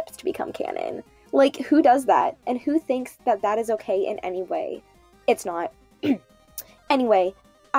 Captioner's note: cough